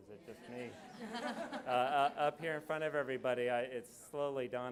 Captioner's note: audience laughs